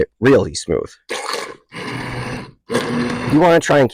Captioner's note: immersion blender churning